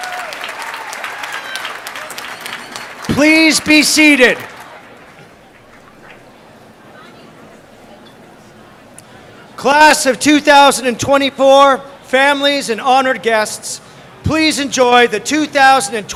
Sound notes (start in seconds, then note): 3.7 applause